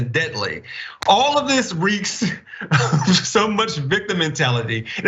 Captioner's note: laugh